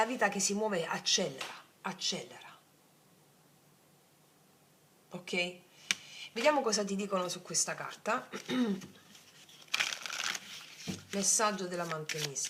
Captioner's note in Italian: schiarire la voce